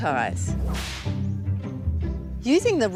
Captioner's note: whip cracks